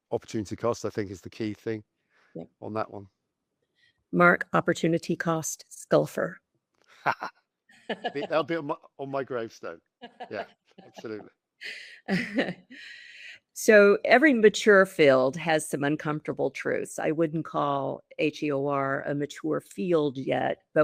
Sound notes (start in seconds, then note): 7.8 laughter